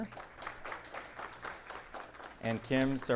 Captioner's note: audience applauding